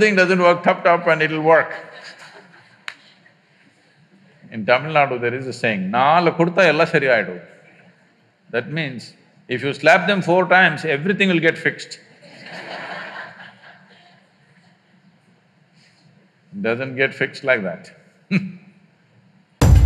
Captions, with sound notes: Something doesn’t work, tap tap and it’ll work. In Tamil Nadu there is a saying - "Naalu kudutha ellam sari ayidum" That means if you slap them four times, everything will get fixed (Laughter). Doesn’t get fixed like that (Laughs).